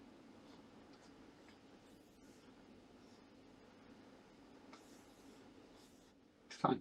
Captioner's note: silence